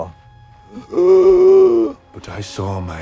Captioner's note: Katya rasps